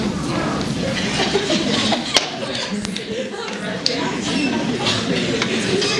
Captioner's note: laughter